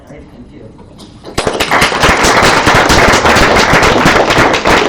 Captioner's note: audience claps